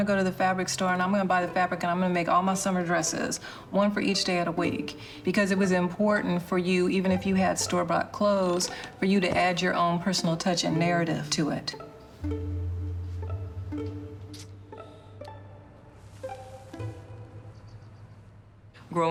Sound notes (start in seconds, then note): 12.2 ambient music; 14.3 lips smacking; 16.1 string swishes; 17.3 birds chirping